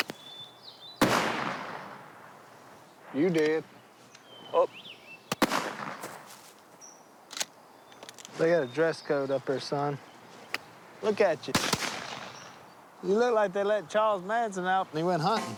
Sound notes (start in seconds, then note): 1.0 gunshot; 5.3 gunshot; 11.5 gunshot